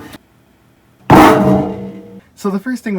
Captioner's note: loud PWANG as side panel hits floor